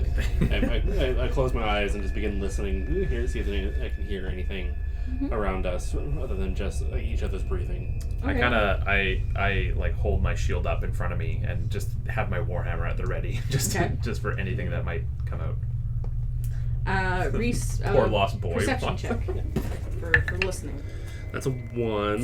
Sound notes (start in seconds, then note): 16.8 giggling at his own joke to come; 18.6 giggling more